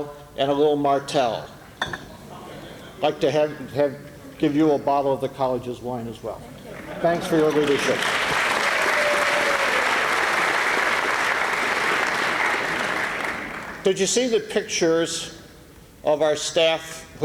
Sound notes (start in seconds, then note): 7.3 applause